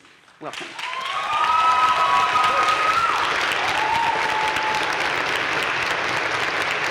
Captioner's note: audience cheering and applauding